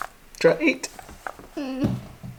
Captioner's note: murmurs